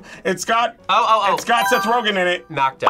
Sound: buzzer rings

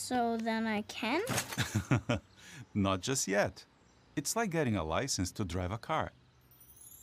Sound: laughs

